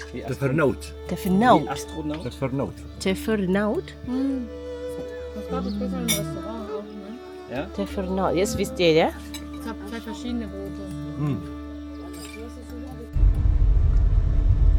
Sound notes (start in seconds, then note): 1.6 speaking German; 5.5 speaking German